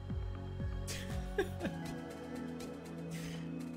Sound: chuckles

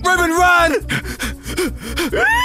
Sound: panting

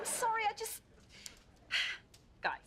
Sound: sighs

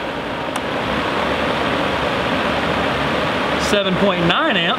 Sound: blower motor whirring

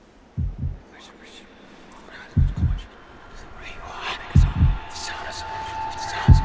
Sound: heartbeat thudding; ghostly voice whispering; ominous music

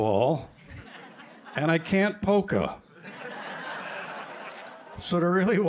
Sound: laughter

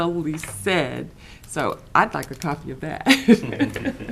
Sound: laughs

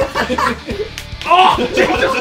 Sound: slapping

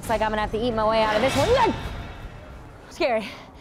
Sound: scary noise

